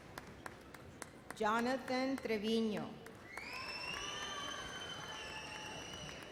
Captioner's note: audience applauds